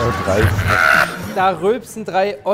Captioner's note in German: Lachen; lacht